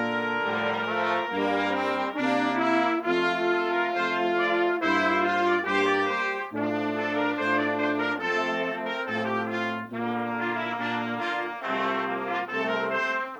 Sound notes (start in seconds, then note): none